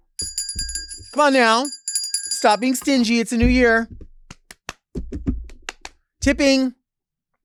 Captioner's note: claps